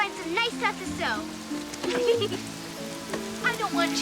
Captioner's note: giggling